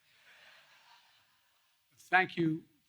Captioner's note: laughter